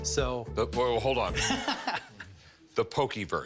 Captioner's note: laughs